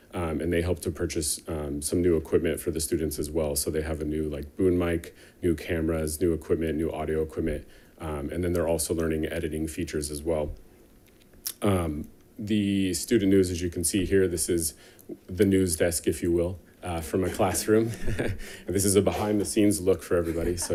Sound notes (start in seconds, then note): 17.0 chuckles